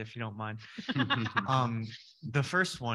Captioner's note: people laughing